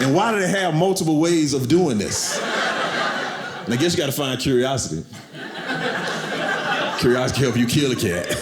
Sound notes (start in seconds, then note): 2.0 audience laughing